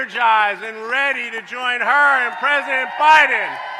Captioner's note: applause